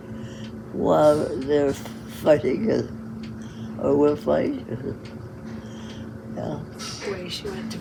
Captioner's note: laughs